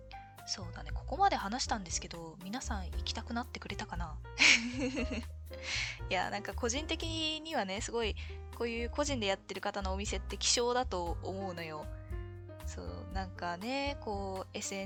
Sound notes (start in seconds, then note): 4.4 laughs